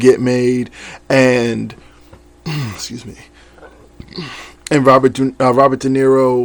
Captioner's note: clears throat